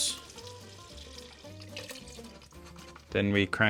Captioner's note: broth splashes